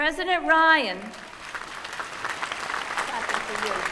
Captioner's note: applause